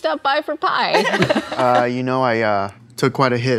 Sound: laughing

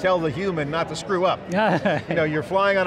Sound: laughing

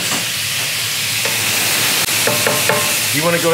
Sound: sizzling

